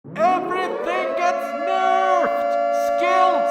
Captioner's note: alarm sirens sound